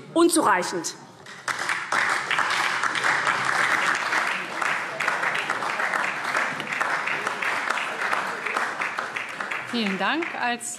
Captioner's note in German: Beifall SPD und DIE LINKE